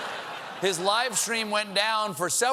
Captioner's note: laughter